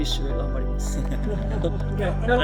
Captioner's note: laughs